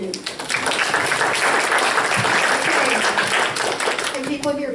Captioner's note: applause